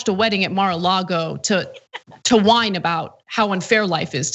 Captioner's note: laugh